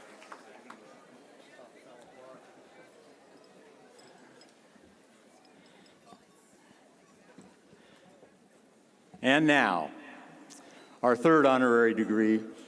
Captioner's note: applause